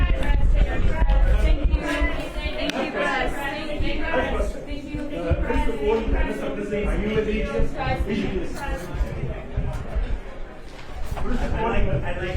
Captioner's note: background chatter